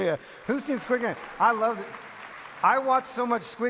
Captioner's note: some of audience cheer